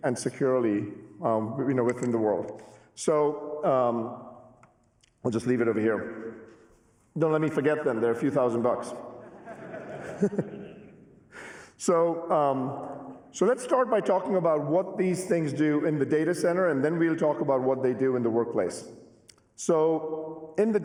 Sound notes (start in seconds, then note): 9.2 laughter